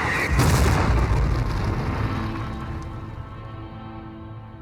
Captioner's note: explosion